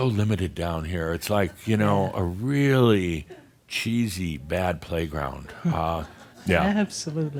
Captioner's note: more chuckles